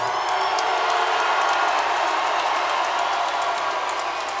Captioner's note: crowd roars